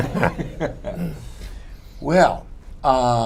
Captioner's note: laughter